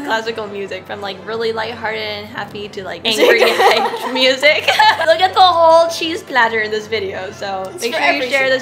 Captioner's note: both laugh